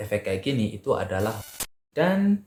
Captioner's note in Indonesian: suara interferensi